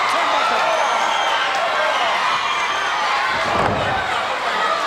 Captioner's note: crowd cheering